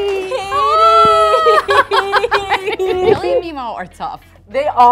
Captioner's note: laugh